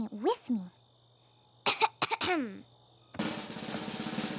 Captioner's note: coughs, clears throat